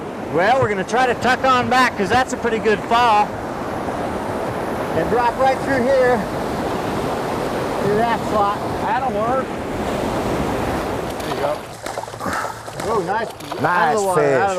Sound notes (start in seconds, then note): 9.9 rushing water; 11.9 splashing